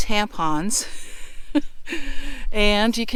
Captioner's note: laughing